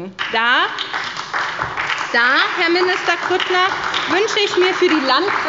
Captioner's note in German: Beifall bei Abgeordneten der SPD